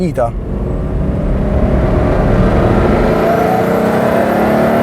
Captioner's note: engine grows in Rpm; Turbo at full boost